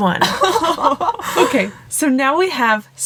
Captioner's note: partners in crime laughing like fiends